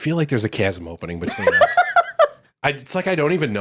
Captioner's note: laughing